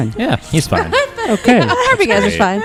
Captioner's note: laughter